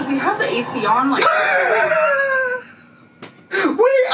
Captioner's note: laughs